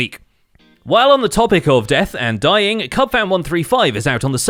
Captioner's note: none